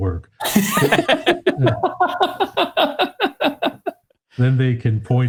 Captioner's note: participants laugh